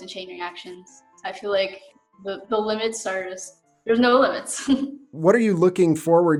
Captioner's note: laughs